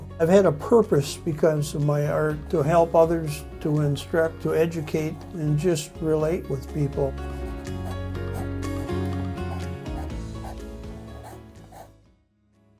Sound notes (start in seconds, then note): 7.8 upbeat music; 11.5 pencil whirring